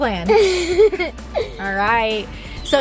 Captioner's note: laughing